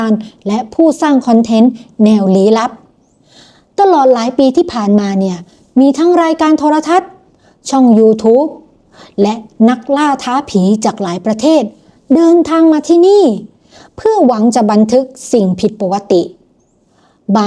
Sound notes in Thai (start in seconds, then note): 3.1 เสียงสูดหายใจ